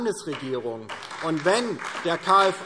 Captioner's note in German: Beifall DIE LINKE und vereinzelt SPD